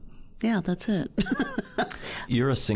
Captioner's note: laughing